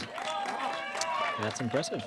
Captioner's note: applause